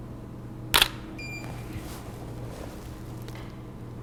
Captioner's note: shutter clicks